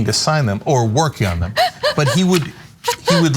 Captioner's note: laugh